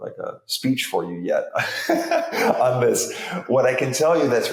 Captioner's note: chuckles